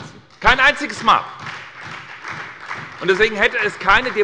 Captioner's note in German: Beifall bei der SPD